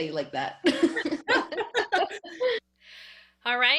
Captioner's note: laughing